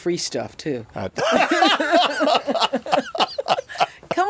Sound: both laugh

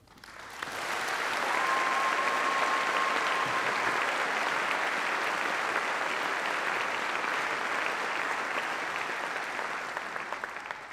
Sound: applause

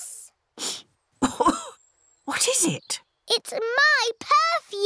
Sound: sniffs and coughs

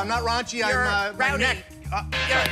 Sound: buzzer sounds

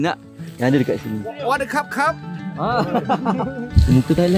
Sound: speaking Thai

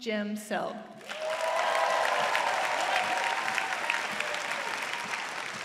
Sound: applause

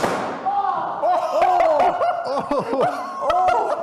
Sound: laughs

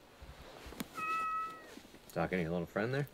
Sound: meows

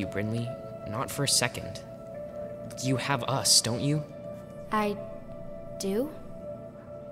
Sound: none

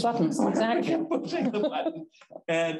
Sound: chuckles

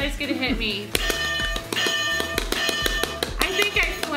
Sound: bell dings loudly

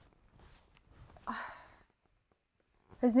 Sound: sighs

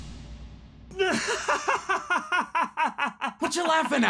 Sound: laughter

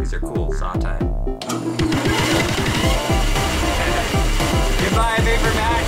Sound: motor rumbling

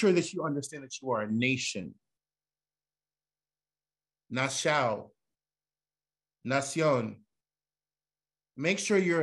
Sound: non-english

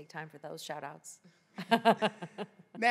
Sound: laughs

